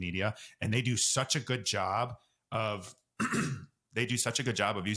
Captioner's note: coughs